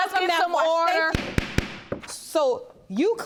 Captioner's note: banging gavel